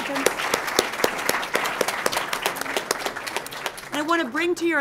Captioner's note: group applauds